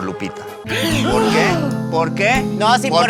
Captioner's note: collective gay gasp